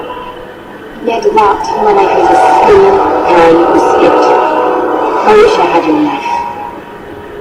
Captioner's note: sighs